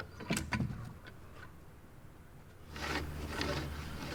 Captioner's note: wood reverberating; wood scraping